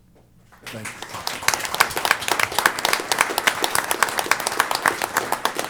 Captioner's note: applause